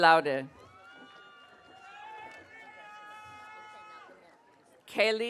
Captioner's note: audience cheering